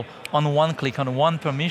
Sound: fingers snapping

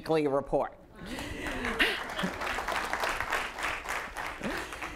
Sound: audience applauding

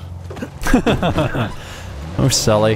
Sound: laughs

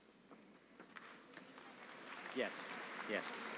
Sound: applause

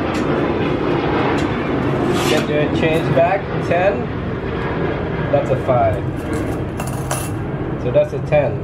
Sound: another airplane taking off

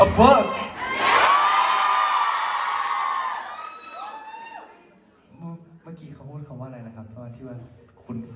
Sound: ปรบมือ

